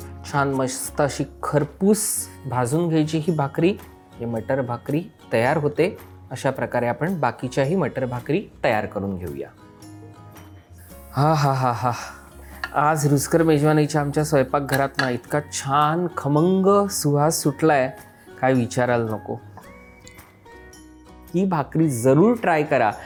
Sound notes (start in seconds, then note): 11.0 gasps